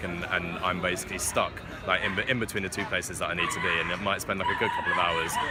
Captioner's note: dog screeches